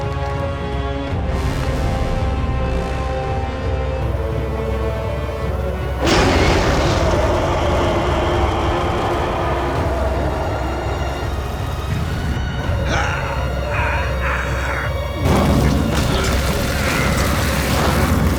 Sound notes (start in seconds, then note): 6.0 roaring; 12.4 grunting; 15.6 grunting, rumbling